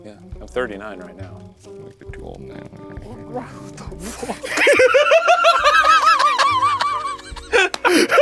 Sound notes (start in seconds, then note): 4.2 cackling